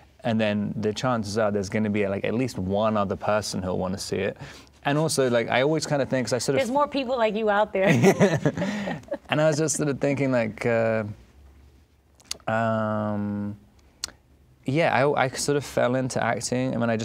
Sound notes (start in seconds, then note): 7.8 laughing